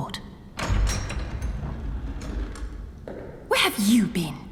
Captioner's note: door opens